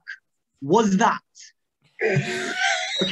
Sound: snuffled laughter

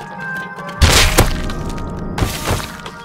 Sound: crunching Flesh

